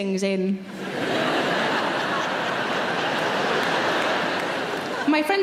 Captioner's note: audience laughs and claps